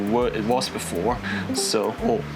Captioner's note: discord pings